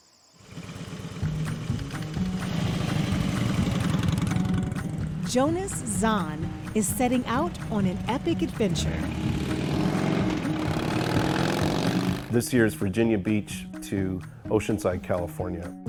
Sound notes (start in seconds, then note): 0.2 motorcycle engine thrums; 8.5 motorcycle rumbling